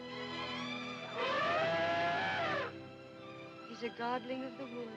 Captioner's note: elephant trumpets